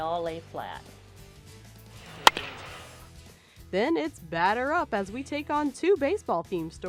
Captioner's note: crack of a baseball bat